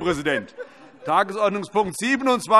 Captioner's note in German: Heiterkeit